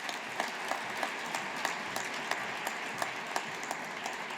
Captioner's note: audience applauding